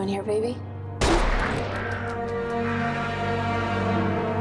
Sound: gun fires

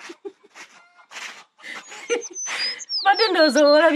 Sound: laughs

